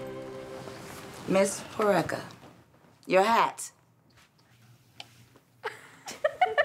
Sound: girls giggle

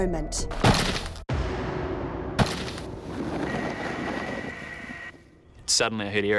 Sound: crash

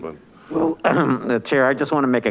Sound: clears throat

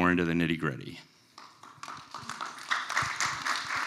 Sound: applause

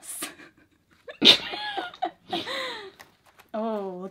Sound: both laugh

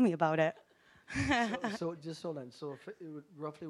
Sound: audience laughing

